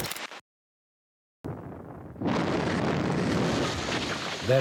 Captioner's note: explosions boom